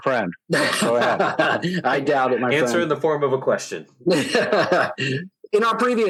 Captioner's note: laughter